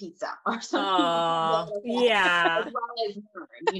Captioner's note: murmurs